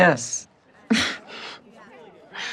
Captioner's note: chuckles